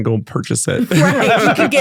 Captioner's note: laughing